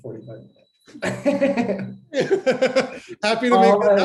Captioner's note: laughter